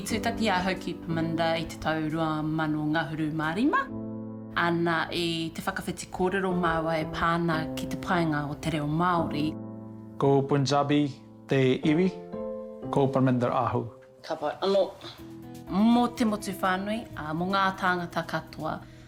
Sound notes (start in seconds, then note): 0.1 speaking Māori language; 9.9 speaking Māori language